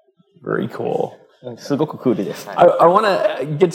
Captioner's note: speaking japanese